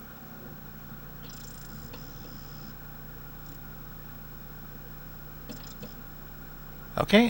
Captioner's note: disc begins spinning up; at speed, we hear a squirrely whistling in spurts as laser attains tracking